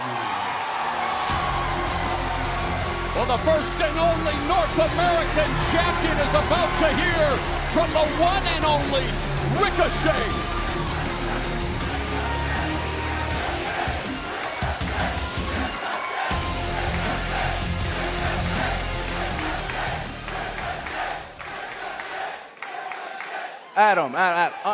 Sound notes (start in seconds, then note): 13.0 cheers and applause; 15.3 fans chanting